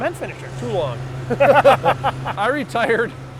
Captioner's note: laughing